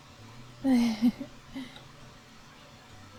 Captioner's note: giggle